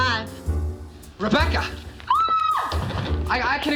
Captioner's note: woman screams